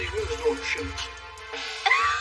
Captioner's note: laughs